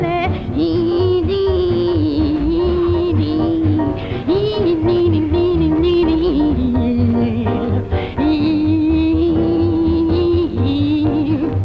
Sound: imitating instrument

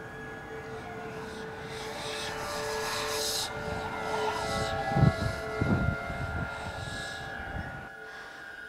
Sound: ghostly whispering

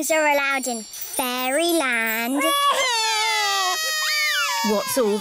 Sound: both crying loudly

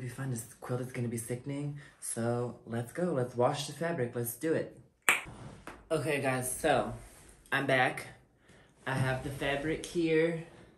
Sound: tongue pop

